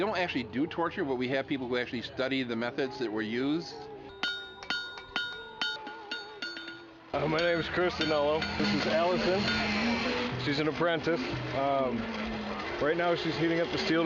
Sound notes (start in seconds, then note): 4.1 metal clanging